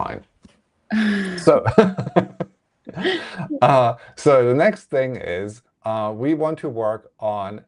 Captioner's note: laughs